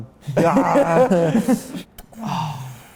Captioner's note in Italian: risate